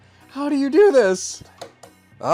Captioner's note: tap Tap